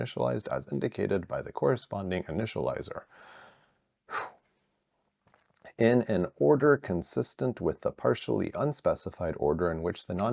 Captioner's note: sighs and gasps